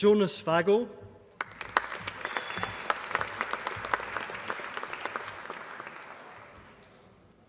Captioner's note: applause